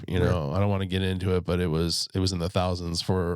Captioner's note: sighs